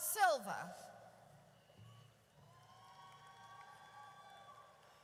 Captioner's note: audience cheers